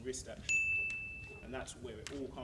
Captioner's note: dinnnggggg!!!